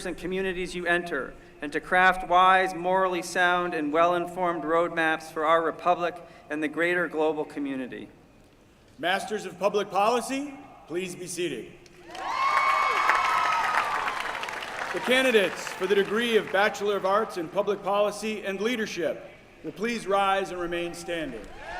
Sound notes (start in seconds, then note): 12.0 applause; 21.4 cheering